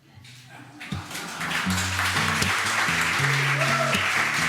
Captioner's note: applause